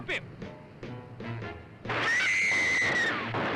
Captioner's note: gun firing; Jane screams